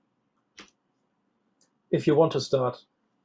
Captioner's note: keyboard clicks